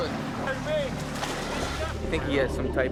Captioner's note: water splashes